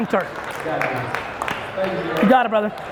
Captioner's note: audience claps